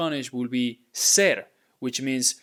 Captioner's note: speaking in Spanish